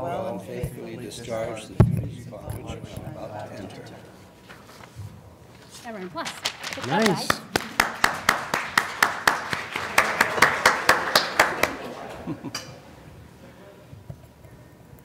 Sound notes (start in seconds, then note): 4.3 applause